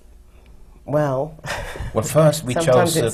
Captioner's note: laughs